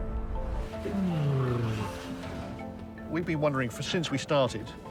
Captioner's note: exhales